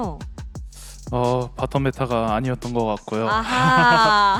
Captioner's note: laughs